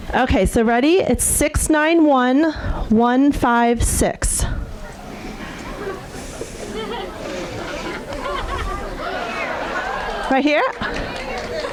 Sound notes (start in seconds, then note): 4.6 audience murmuring